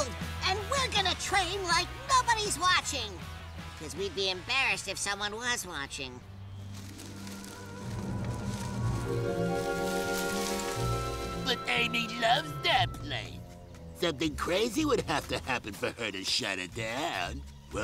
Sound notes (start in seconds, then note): 6.4 foliage rustling; 11.3 mockingly